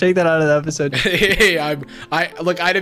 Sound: laughs

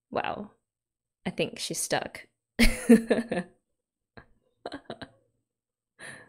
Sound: laughs

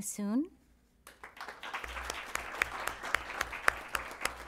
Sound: applause

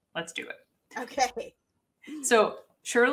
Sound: laughs

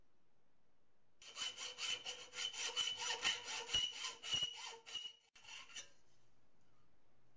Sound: scratchy cutting sound

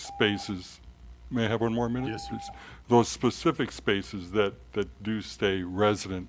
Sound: timer dings

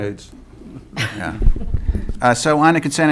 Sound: laughter

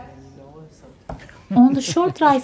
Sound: the clinking of mugs and sipping of drinks

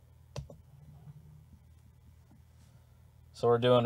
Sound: mouse clicking

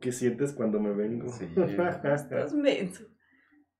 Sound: laughing & teasing

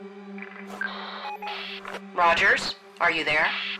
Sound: suspenseful music; radio bleep

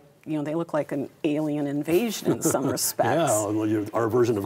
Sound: chuckles

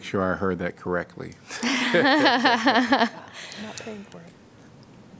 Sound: laughter

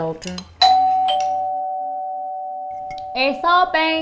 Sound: doorbell rings...possibly in Spanish

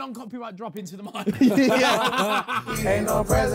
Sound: Sidemen laughing

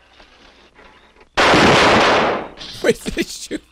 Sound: explosion; laughing

